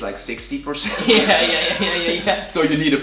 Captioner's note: laughing